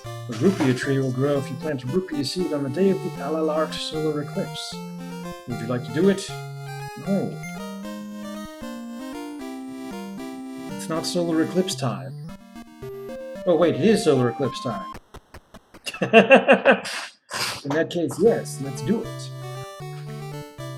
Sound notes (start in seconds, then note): 15.8 laughs